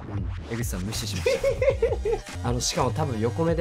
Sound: laughs

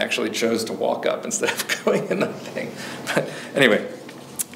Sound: chuckles

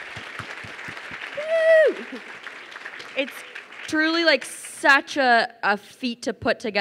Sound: cheers

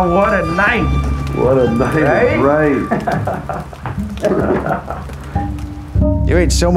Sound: laughing

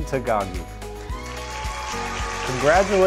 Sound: audience cheering

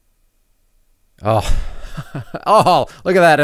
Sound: chuckles

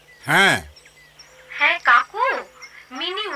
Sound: over phone

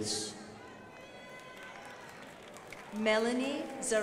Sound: crowd applauding

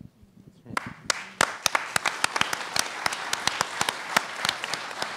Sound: applause

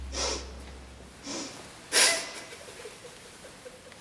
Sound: crying softly

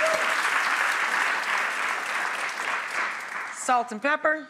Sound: audience applauding

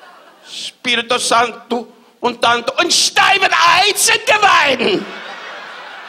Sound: Don yelling in Latin to German; audience laughs

